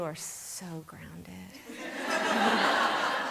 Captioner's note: laughter